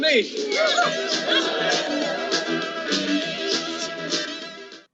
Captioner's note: upbeat music; crowd applauding